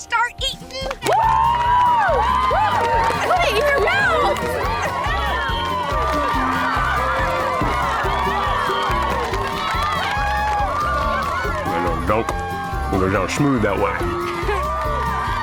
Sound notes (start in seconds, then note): 1.1 cheering; 4.6 cheering; 14.4 cheering